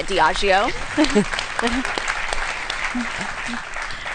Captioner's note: applause